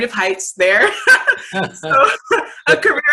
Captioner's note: laughs